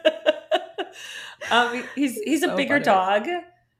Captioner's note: laughing